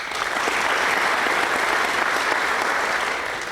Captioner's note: applause